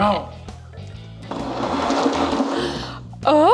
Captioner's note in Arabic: عجلة قعقعة